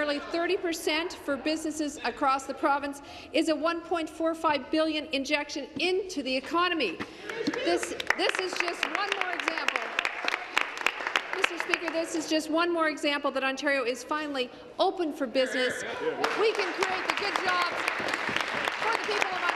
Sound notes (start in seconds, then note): 10.8 applause